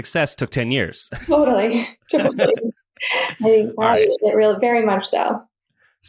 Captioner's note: laughs